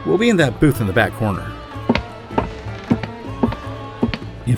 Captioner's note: walking